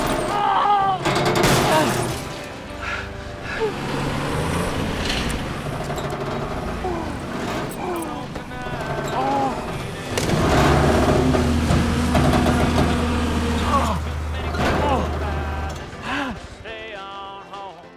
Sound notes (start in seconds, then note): 0.6 Boyd gasping; 7.3 Boyd groaning; 14.7 light country music